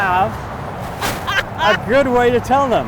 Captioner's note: laughs